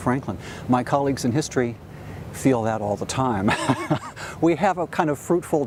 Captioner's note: laughs